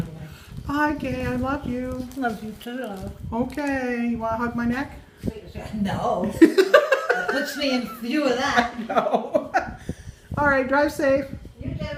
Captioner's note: laughing